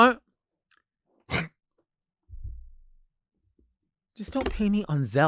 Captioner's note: presenter mimics crunch